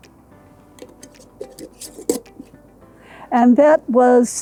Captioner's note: lid clinking